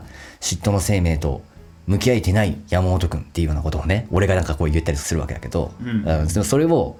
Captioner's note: laughs